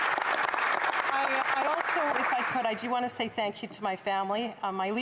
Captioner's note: applause